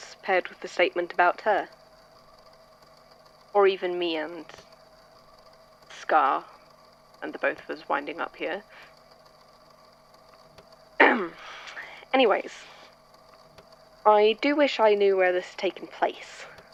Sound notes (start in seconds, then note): 11.0 clears throat